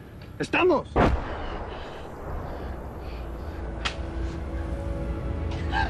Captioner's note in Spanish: Explosión